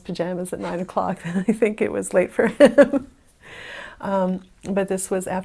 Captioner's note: laughing